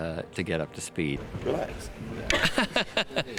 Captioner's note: laughs